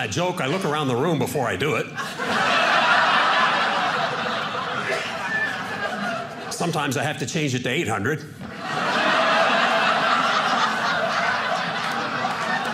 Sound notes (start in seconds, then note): 1.9 audience laughing; 8.5 audience laughing